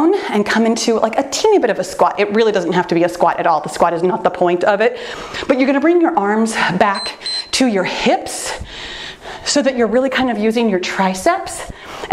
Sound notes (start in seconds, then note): 6.9 timer beeps